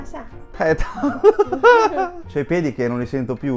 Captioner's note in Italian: risate